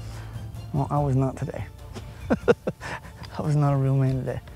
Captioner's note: laughs